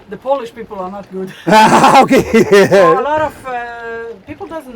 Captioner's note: laughing